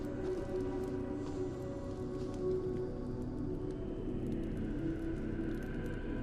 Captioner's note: mysterious whispering